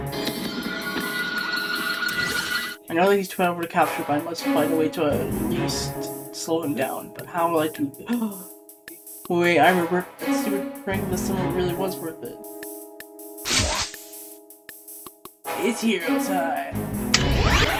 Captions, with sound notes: I Know That He Is Too Powerful To Capture, So I Must Find A Way To At Least Slow Him Down. How Will I Do- *gasp* Wait, I Remember! That Stupid Prank Over The Summer Really Was Worth It! It's Hero Time!